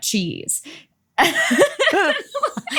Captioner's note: laughs